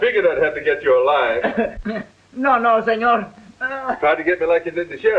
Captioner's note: whimpering